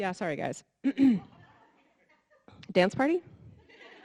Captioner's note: clears throat